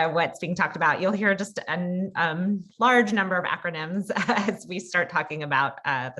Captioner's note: laugh